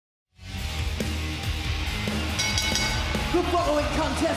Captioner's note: hard rock music; bell dings